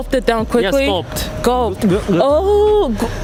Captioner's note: gulp